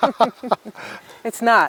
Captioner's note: both laugh